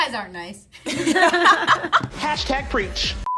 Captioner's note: all laughing